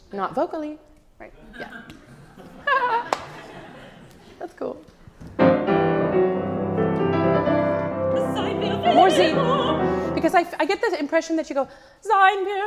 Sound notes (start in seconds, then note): 3.6 audience laughs; 5.3 piano music; 8.1 sings in a foreign language